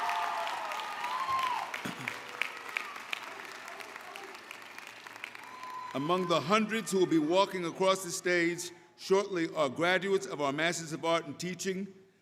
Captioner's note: applause